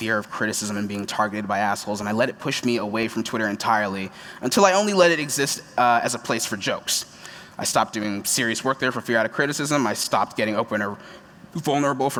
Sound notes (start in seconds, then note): none